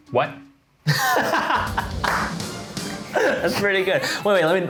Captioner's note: laughs